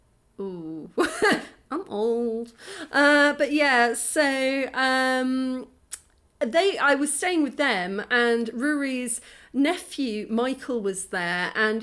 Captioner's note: laughing